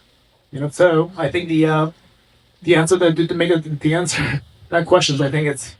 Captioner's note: chuckles